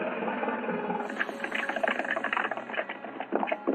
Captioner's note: horses galloping